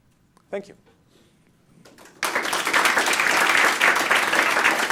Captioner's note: applause